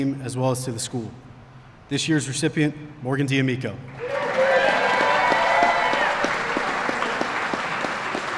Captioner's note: applause